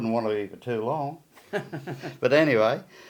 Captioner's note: laughs